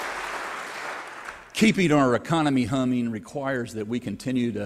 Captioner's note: applause